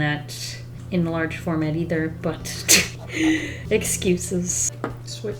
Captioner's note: laughs